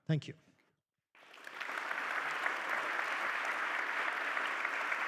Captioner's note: attendees clapping